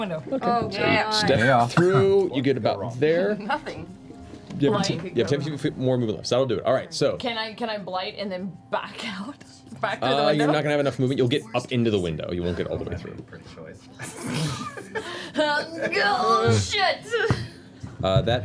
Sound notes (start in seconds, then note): 15.3 grunts